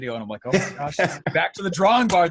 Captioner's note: laughs